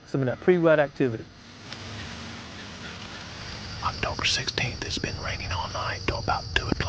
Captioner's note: whispering